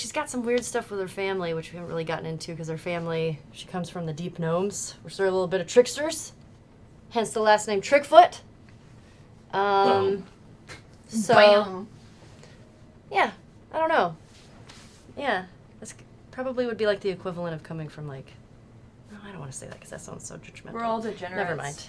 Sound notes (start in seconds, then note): none